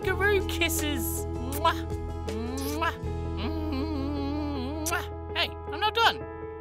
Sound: sloppy kisses

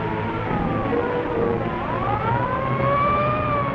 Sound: siren wailing

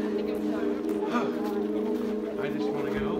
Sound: sighs

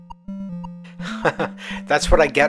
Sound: laughs

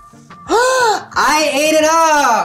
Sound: gasps

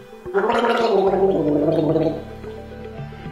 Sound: gargles

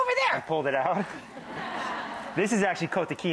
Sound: laughing

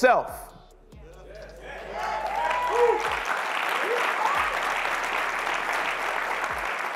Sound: clapping

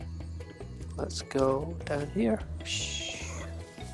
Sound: none

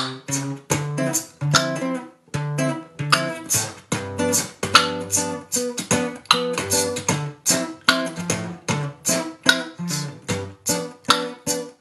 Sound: beat boxing

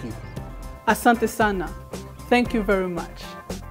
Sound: Swahili; instrumental music

